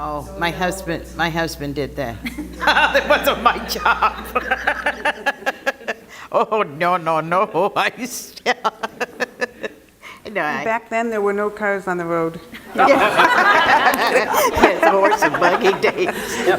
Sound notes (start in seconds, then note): 2.2 laugh; 12.6 laughter